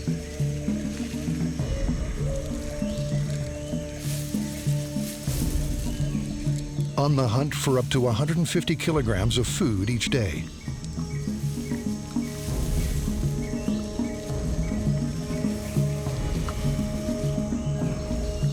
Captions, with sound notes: on the hunt for up to 150 kilograms of food each day. [leaves rustling]